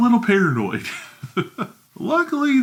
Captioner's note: chuckles